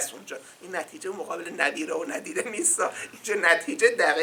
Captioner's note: in Farsi